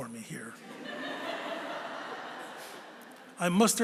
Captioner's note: laughter